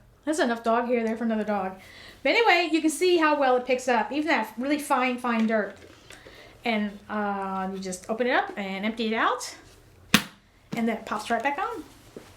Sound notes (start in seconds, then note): 10.2 lid clicks